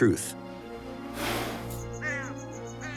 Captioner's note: bird cawing